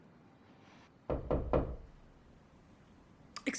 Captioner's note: knocking